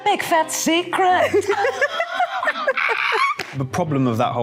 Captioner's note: both laughing